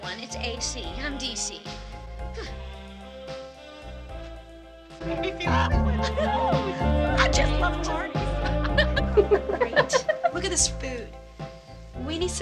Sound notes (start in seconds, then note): 6.2 women chatting